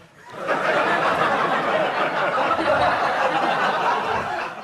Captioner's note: audience laughs